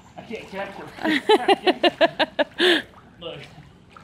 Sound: mom laughing

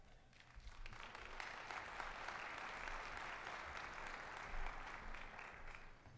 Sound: applause

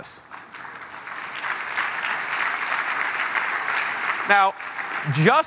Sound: applause

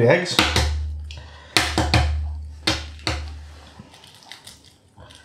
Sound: shell smashing

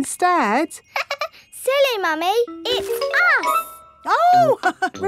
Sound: laughs; chuckles

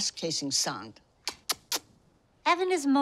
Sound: smooching

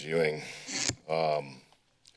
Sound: mic squeaking

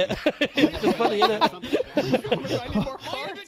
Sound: both laughing

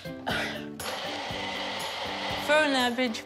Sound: blender whirrs

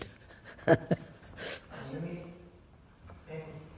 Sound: laughs

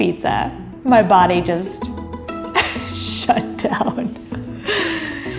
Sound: laughs

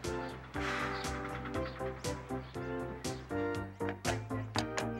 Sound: exhaling loudly; horse hooves clopping

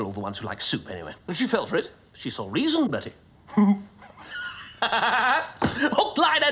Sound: laughs

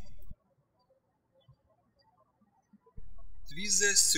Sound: birds chirping

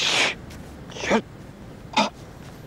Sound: grunts

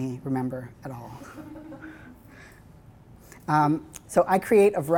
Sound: laughing

